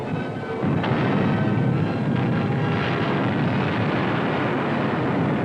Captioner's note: artillery blasting